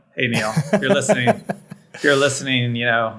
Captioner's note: Nilay laughs